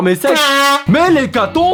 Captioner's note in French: pouet